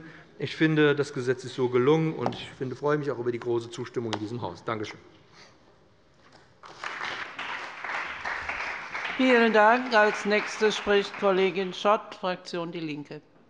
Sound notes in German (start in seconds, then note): 6.6 Beifall bei dem BÜNDNIS 90/DIE GRÜNEN und der CDU